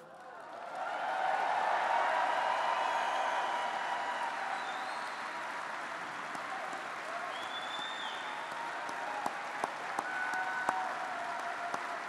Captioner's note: applause